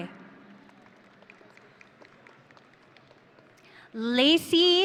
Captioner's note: audience applauding